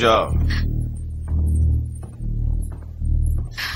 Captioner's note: chain jingling